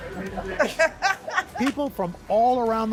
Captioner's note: laughter